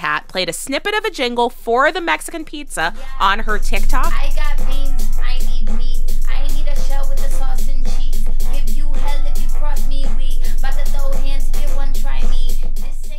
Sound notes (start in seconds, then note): 1.4 soundbite of archived recording; 4.7 singing